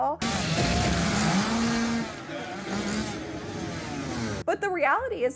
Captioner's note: hacksaw noises